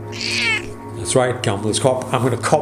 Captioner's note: Charlie meowing